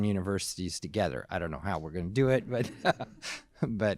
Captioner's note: laughs